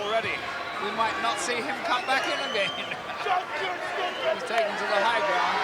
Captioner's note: laughs